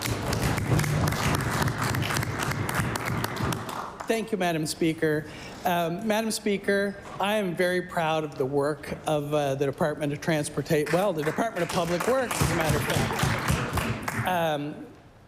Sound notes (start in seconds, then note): 3.5 applause